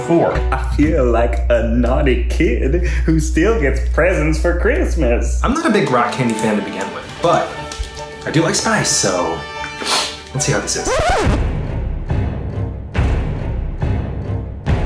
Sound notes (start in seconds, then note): 9.7 sniffs; 10.8 record scratch; 12.0 dramatic music